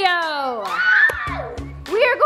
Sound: cheering and groaning

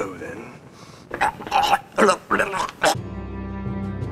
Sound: gurgling sounds

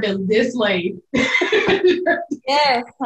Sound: belly laughing

